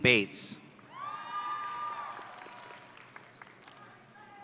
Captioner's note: audience cheering